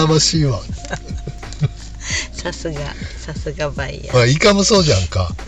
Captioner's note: laughs